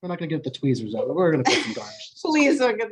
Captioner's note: laughs